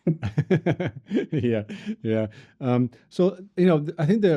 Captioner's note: both chuckle